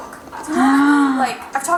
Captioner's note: gasps